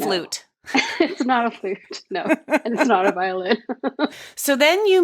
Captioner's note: laughing